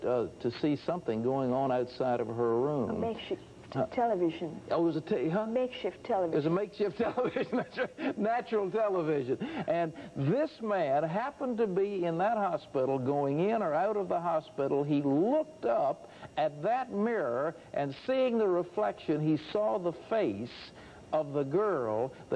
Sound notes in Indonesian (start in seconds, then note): 7.0 Tertawa